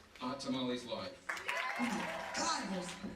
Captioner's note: audience applause